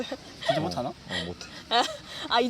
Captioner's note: north Korean dialect